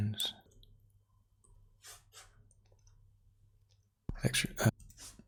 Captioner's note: silence; silence